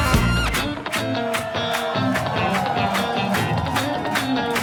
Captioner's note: audience cheering; audience clapping